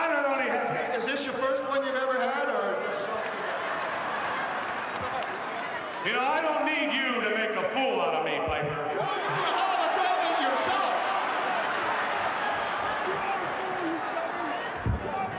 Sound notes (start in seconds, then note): 3.4 audience laughing; 9.2 Roddy shouting; 12.0 audience chattering